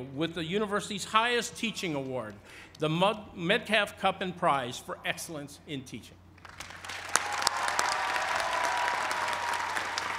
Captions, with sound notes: with the university's highest teaching award, the Metcalf Cup and Prize for Excellence in Teaching. (applause)